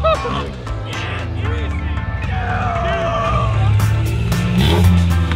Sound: cheering; upbeat funk music

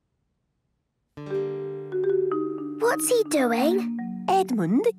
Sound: whispering

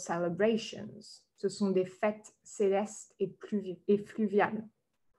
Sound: French language

